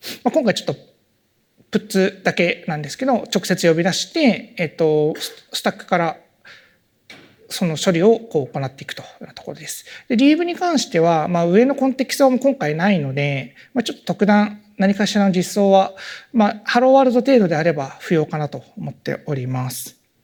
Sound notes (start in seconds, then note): none